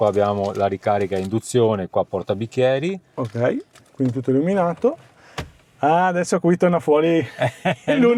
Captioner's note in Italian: risate